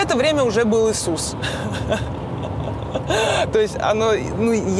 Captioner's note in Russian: смеётся